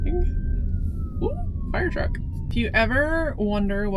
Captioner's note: sirens in distance